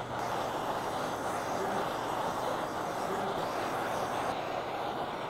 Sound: torch whooshing

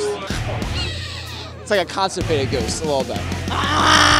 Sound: wheezes

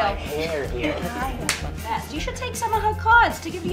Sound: light snapping

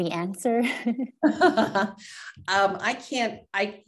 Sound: chuckles

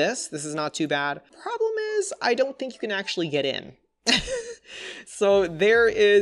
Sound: laughs

